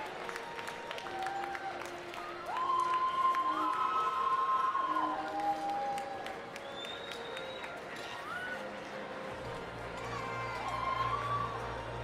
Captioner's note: applause